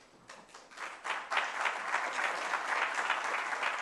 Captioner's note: applause